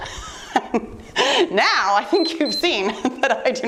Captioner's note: laughs; timer beeps